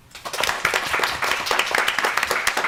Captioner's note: applause